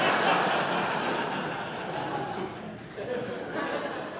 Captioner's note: audience laughs